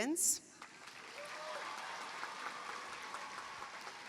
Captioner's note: cheering, applause